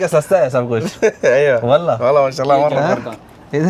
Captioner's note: Arabic